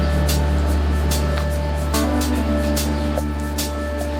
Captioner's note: country music; wheels rumbling